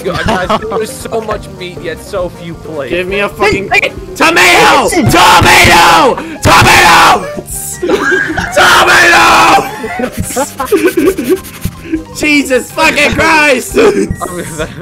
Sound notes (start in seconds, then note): 7.8 cracks up laughing; 8.5 still screaming; 9.7 overall laughter, smiley panting